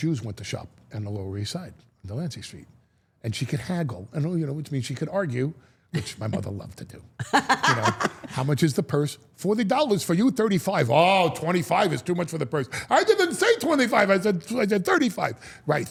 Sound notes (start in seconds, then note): 7.2 Steph laughs